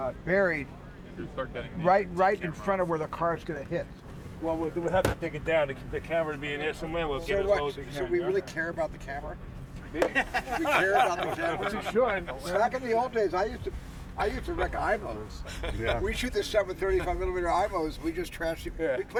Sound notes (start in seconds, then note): 7.2 stammers; 10.0 all chuckling